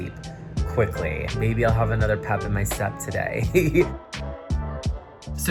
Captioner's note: chuckles